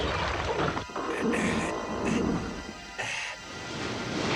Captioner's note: strains